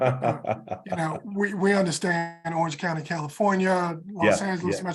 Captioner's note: laugh